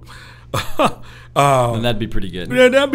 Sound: chuckles

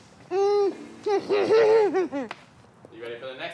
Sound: grunts

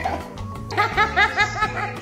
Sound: laughing out loud

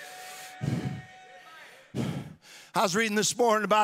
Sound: audience cheering

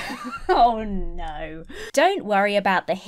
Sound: laughs

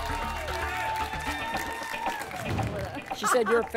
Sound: applause and cheering

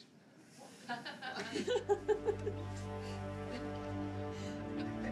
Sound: laughter

